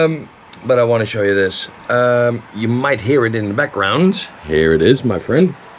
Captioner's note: fan blowing